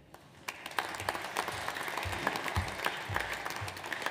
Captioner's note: audience applauds